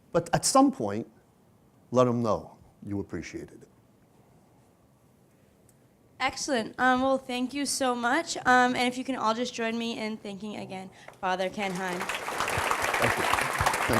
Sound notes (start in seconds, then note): 11.5 applause